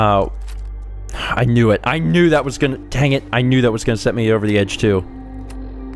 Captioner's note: sigh